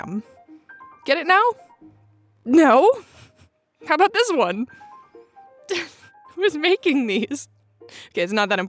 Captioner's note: laugh